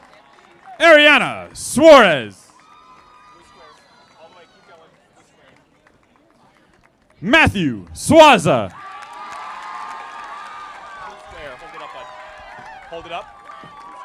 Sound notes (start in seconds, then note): 0.8 audience applauding; 8.3 audience applauding